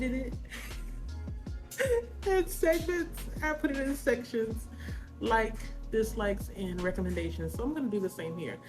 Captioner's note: laughing